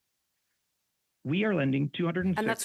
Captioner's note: speaking in French